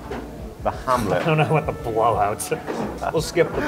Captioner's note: laughing